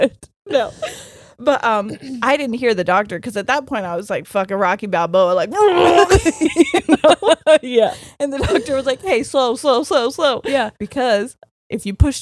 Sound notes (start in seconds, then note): 5.5 groaning; 7.4 both laughing